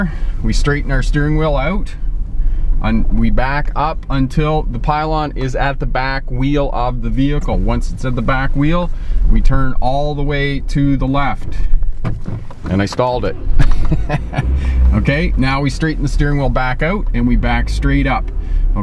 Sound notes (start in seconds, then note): 13.4 laughs